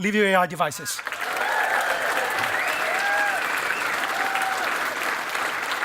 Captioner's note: cheering and applause